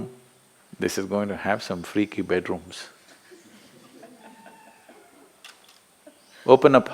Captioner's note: A participant laughs